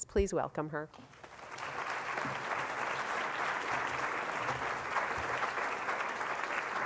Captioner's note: applause